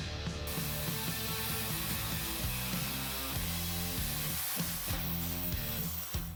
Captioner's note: intense rock music; tool whirring